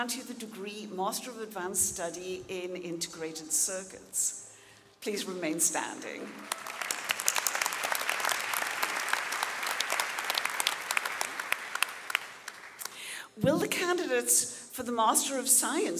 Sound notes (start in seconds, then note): 6.3 audience applauding